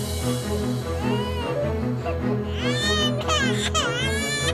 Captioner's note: baby crying